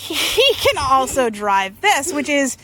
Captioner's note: laughs